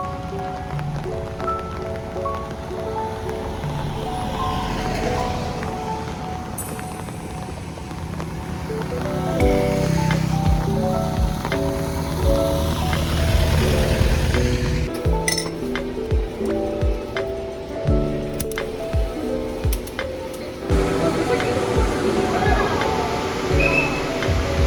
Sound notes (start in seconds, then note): 13.9 vroom!